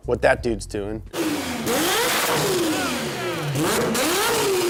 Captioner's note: engine revving